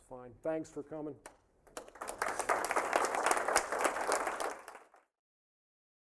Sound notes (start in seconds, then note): 1.6 applause